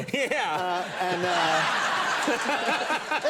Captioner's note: audience laughing; laughs